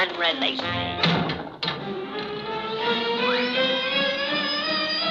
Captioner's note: ropes popping; rock clamoring